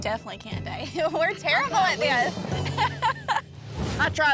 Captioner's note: chuckles